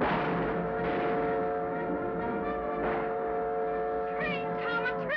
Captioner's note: train horn whistles; exciting music